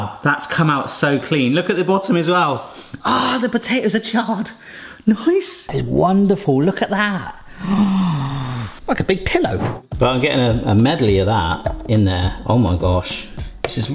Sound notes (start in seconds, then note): 7.5 gasps